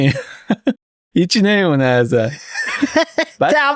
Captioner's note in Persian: خنده